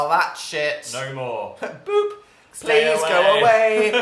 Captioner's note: makes sound effect